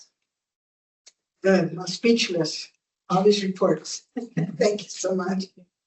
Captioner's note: laughter